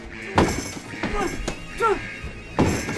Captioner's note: door thuds; exclaims